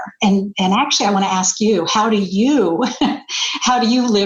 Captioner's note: laughing